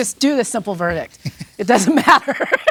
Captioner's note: laughs